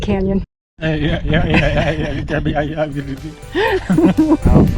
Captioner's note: sound of vibration on bumpy road